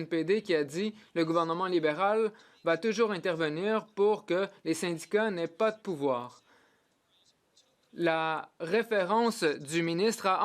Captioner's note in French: voix de l'interprète